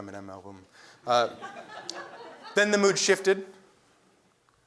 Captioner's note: laugh